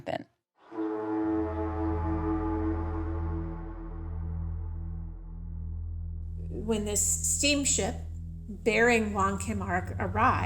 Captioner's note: soundbite of ship horn sounding